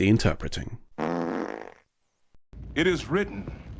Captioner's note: fart noise